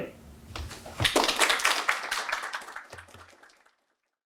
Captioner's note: crowd clapping